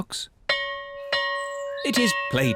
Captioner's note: bell rings